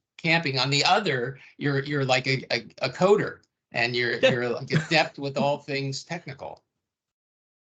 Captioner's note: chuckling